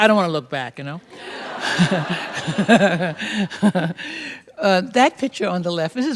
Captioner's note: laughter